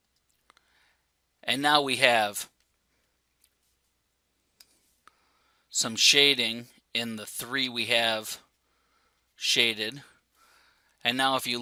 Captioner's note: pause